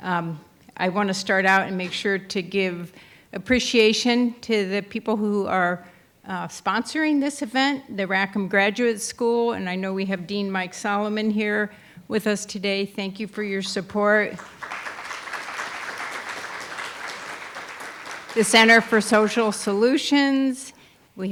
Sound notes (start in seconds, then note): 14.3 audience applauding